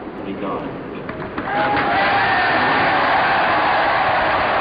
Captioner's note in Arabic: الحشود تهتف